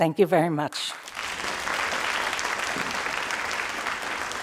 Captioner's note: crowd applauding